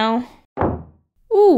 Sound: door slam

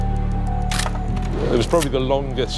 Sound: camera shutter clicking

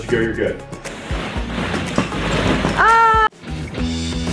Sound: balls crunching; screams; light music

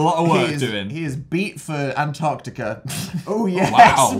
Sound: laughs

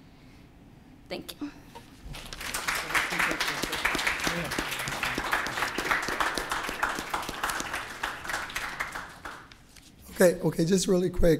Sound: applause

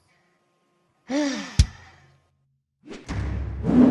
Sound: sigh

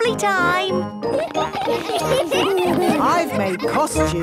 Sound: laughter

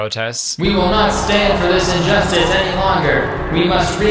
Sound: automated Voice

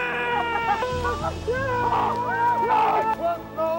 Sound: screaming

